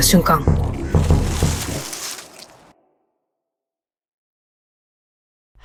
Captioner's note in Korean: 나뭇잎이 움직이는 소리